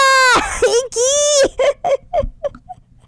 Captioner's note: laughs